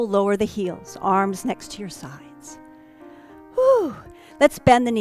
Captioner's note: sigh